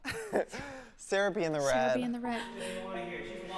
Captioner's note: laughs